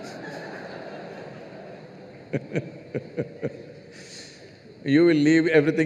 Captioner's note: laughter